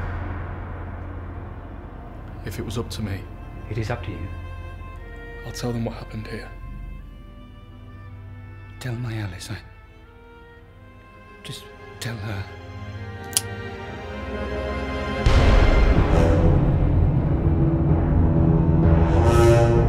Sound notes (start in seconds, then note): 13.2 gun cocks; 15.2 bomb explodes; 16.9 brooding music